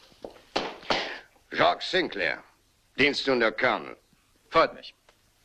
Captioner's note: stamps floor